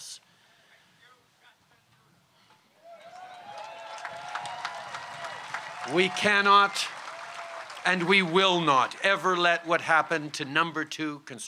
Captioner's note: cheers & applause